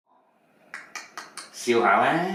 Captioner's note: dad clicking tongue